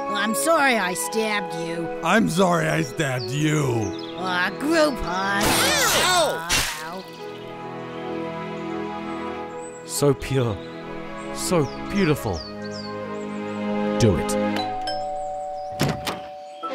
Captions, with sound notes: I'm sorry I stabbed you! I'm sorry I stabbed YOU! Aw, group hug! (stabbing) Ow! (peaceful music) So pure... So beautiful... Do it. (Doorbell)